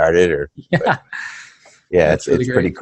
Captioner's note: laughing